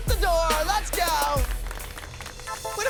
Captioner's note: applause